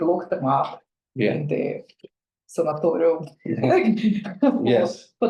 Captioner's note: laughs